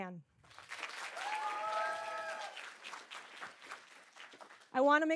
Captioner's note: audience cheering and applauding